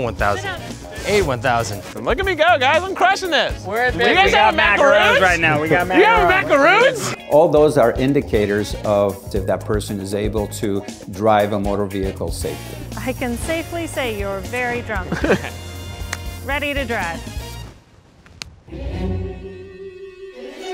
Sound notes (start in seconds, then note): 14.9 laughs